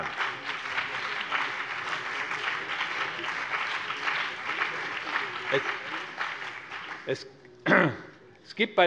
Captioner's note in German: Beifall BÜNDNIS 90/DIE GRÜNEN